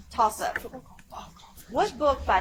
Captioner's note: whispers